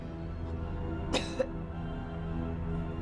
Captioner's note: coughing